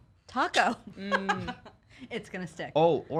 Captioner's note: laughs